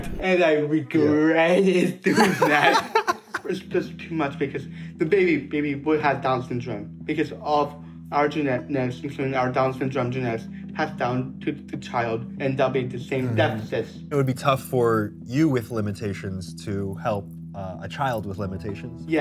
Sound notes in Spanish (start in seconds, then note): 2.0 risas